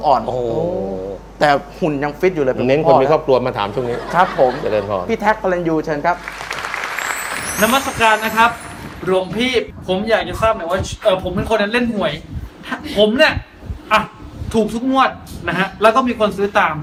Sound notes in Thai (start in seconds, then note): 6.2 เสียงปรบมือ